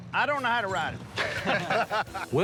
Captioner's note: laughter